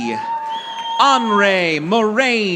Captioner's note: audience applauding